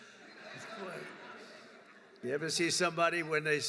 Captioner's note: laughter